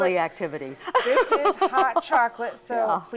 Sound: laughing

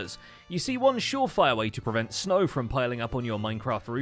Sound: none

